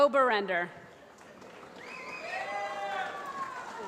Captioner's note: applause